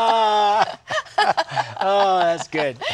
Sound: laughter

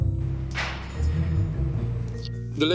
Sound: knife clanging; smooches

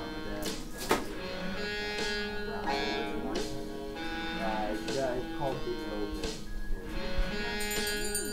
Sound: bell rings

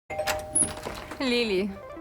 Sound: doorbell rings

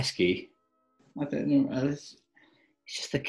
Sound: mutters

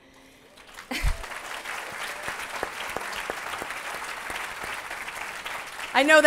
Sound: applause

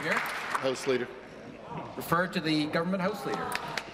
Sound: applause

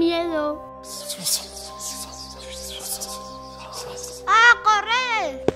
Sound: whispers

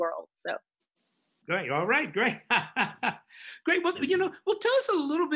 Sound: laughs

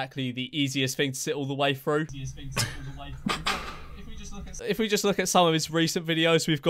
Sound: laugh

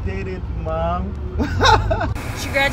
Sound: laughs

